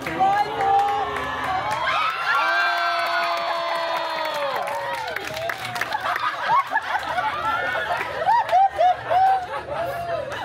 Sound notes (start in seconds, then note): 1.8 guests cheering and screaming; 5.6 guests laughing